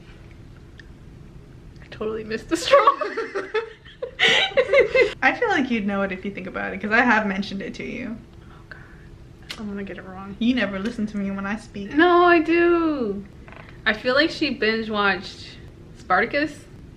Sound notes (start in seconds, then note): 2.6 both laugh; 8.4 whispers 'oh god'